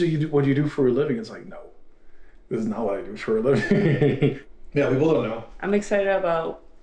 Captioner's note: laughs